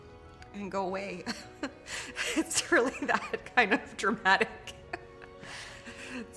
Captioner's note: chuckles